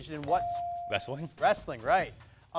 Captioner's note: bell dings